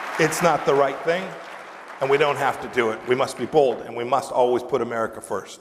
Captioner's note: applause